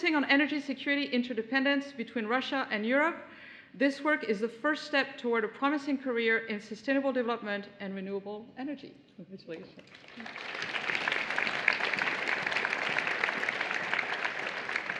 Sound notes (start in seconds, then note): 9.7 applause